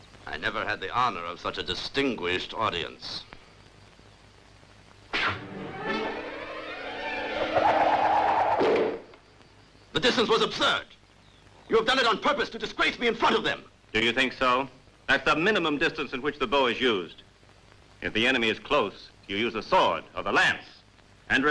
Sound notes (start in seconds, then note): 5.1 arrow whistling; 5.3 suspenseful orchestral music